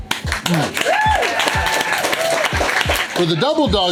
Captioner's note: crowd applause